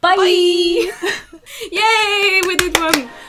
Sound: celebratory noises

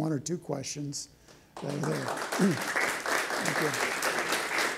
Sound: applause

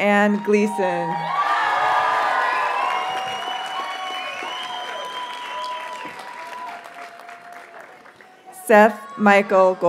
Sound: audience cheers and applauds

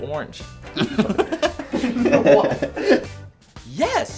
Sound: giggling

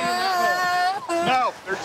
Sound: crying

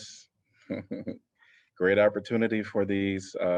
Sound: laughter

